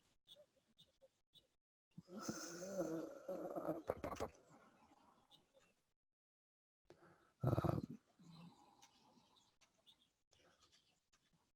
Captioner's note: pause